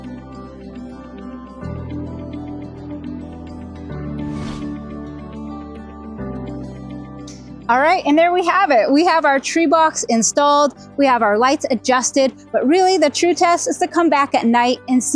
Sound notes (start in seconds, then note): 4.0 screen whooshing; 4.5 lively music continues